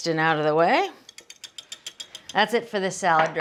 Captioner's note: whisk scraping